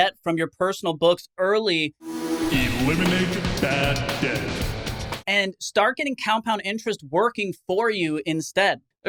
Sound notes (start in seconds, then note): 2.0 intense music; 3.0 voiceover